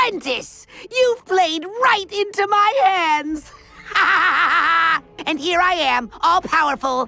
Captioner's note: Kaos laugh